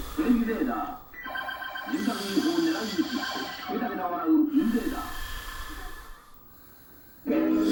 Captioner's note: snoring